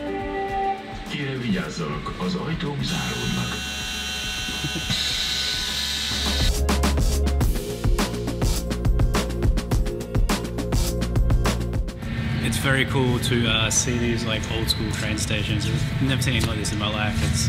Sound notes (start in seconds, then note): 0.2 train announcement in Hungarian; 2.8 buzzing sound when door opens